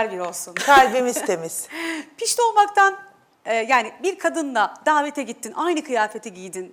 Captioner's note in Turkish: kahkaha